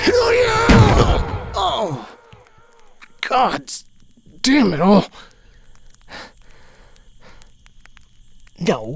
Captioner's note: thud